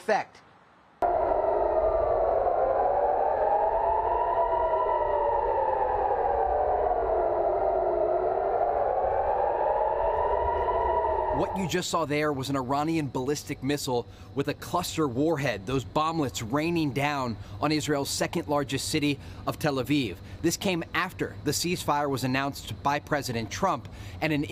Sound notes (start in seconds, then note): 6.9 sirens